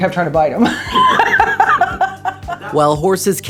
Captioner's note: laughs